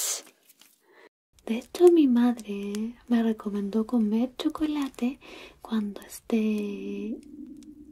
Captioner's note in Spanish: sonidos de estómago